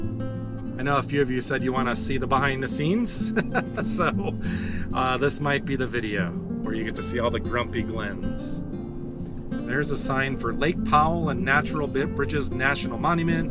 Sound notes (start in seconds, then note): 3.2 laughter